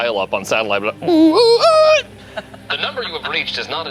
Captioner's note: screeches